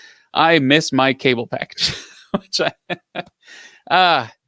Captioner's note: laughs